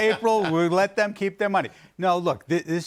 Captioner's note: laughter